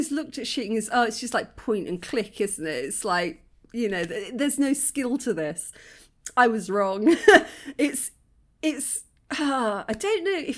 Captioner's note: sigh